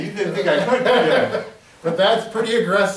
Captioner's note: laughing